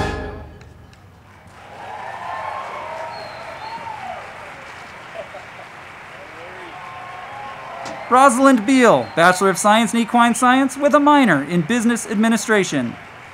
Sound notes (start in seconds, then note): 0.0 band music; 0.0 crowd clapping and cheering; 1.6 crowd cheering